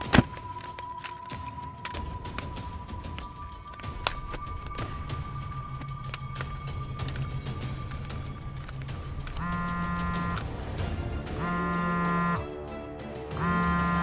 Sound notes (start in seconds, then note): 0.1 thud on ground; 9.4 phone vibrates